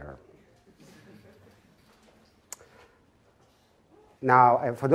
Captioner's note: audience murmuring